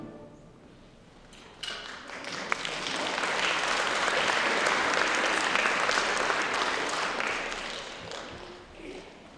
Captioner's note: applause